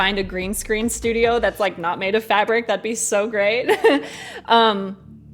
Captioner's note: chuckles